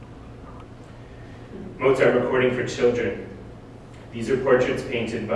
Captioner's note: none